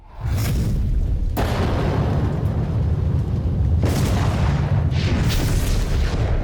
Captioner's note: thunder cracking over rumbling ambiance